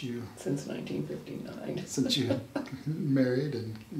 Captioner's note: laughs